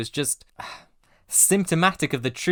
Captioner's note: sigh